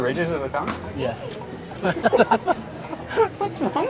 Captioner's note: both laugh